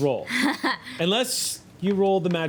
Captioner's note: laughing